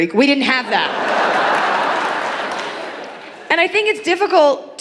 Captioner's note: audience laughing